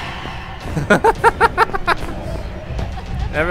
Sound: screeching; laughs

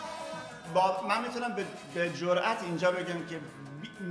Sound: speaking in farsi

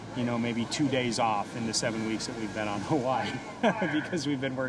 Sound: chuckles

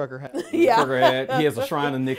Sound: laughs

